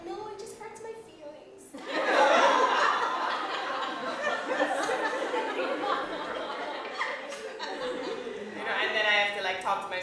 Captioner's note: laughter